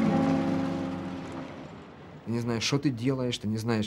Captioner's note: man speaking Russian